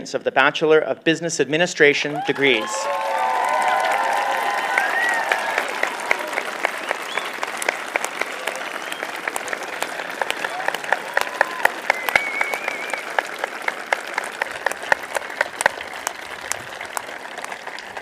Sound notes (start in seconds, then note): 3.3 applause